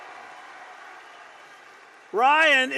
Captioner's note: applause